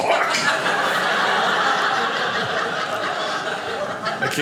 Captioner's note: audience laughing